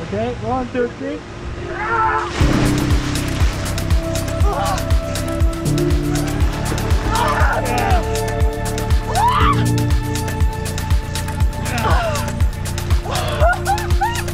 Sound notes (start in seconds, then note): 1.5 yells; 2.2 upbeat music; 2.2 water splashes; 4.4 gasps; 5.4 yells; 9.0 shrieks